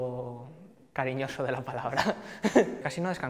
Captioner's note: laughs